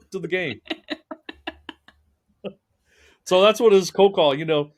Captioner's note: laughing